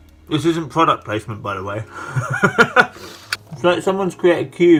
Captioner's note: laughs